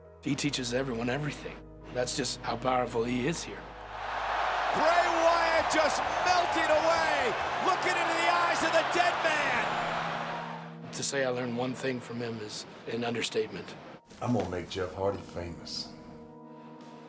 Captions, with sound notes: He teaches everyone everything. That's just how powerful he is here. (crowd roaring) Bray Wyatt just melted away. Looking into the eyes of the dead man! To say I learned one thing from him is an understatement. I'm gonna make Jeff Hardy famous.